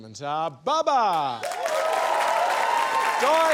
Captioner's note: cheering, applause